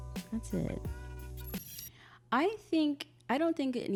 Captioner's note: audio crackles